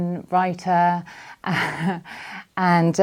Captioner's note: chuckles